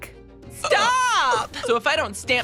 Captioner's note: in the most stereotypical gay voice imaginable